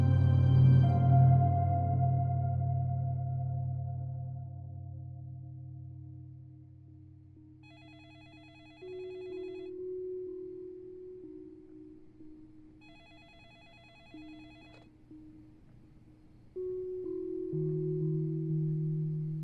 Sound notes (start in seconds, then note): 7.6 phone ringing; 9.3 monotonous music drones; 12.8 phone ringing; 14.9 phone clicks; 16.4 monotonous music drones